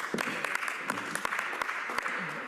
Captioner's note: applause